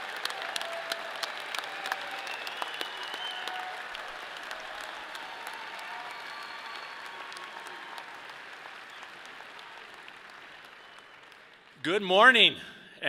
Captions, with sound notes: (people cheer) (people whistle) - Good morning!